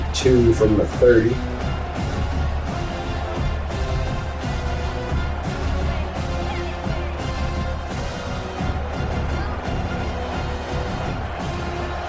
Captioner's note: crowd Noises